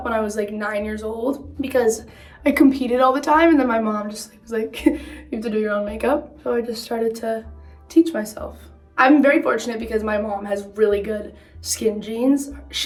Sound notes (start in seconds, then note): 4.8 chuckles